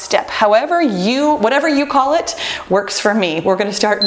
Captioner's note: timer beeps